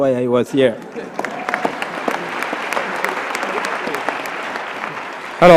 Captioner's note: applause